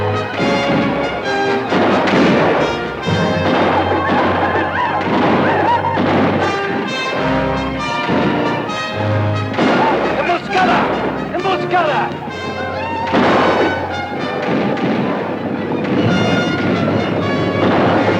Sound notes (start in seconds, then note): 10.2 Apache speaks Spanish; 13.0 gun fires; 14.6 guns fire